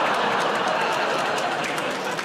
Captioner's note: audience groans